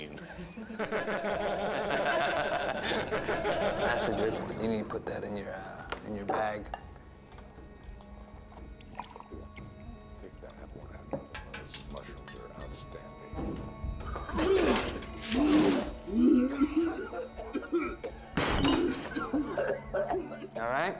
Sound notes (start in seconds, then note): 0.0 laughing; 14.0 vomiting